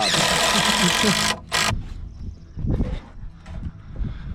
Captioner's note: drill whirring